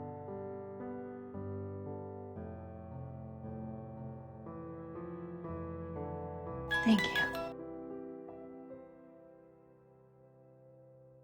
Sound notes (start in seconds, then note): 6.9 voiceover